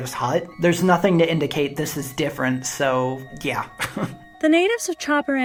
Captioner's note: chuckles